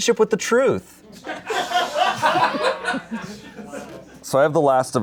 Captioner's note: audience laughing